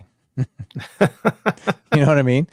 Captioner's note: laughing